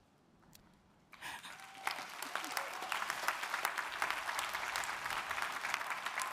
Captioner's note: audience applauding; audience cheering